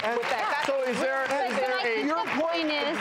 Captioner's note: applause